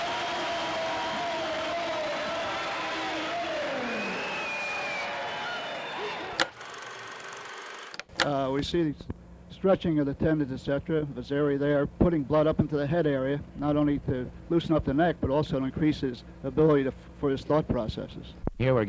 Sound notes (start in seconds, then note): 4.3 crowd cheering; 6.1 film reel ticking; 6.3 film projector clicks